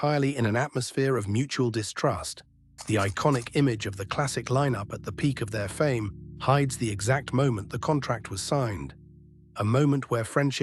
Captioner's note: SFX: camera shutter click